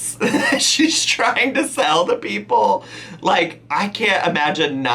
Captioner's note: laughing